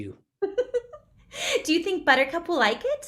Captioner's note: Lydia laughing